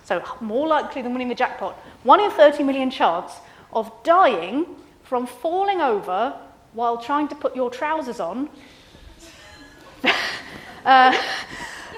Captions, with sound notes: so more likely than winning the jackpot, one in 30 million chance of dying from falling over while trying to put your trousers on. (laughs)